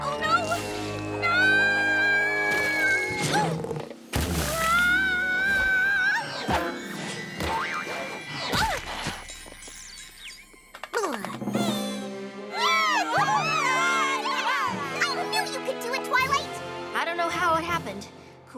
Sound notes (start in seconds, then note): 2.7 whistle!; 5.8 boing! boing!; 8.5 grunts; 8.8 tweet!; 10.9 rattle!; 12.6 all cheering